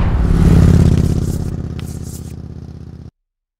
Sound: engine roars

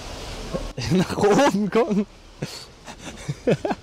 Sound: laughter

